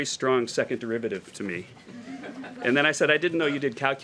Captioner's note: laughter